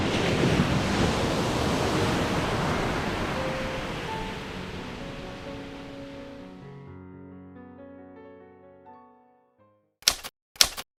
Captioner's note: waves crashing